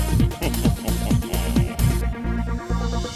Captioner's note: chuckles; upbeat music continues